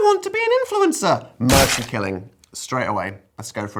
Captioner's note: animated squashing